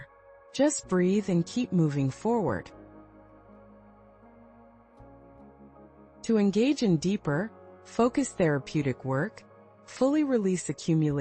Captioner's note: pause